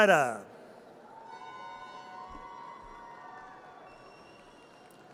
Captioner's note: audience cheers